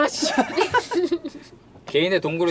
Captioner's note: laughter